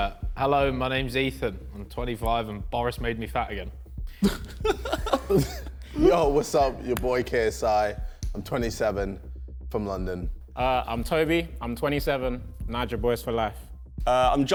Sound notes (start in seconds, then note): 4.2 Josh laughing